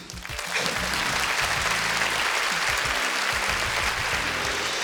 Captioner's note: audience applauding